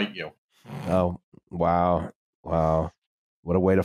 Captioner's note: snorts quietly